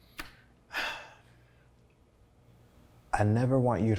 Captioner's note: sighs